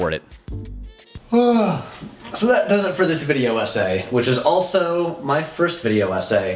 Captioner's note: yawns